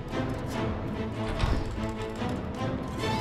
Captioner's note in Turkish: Kapı açıldı